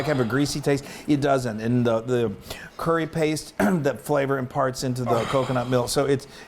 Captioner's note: cough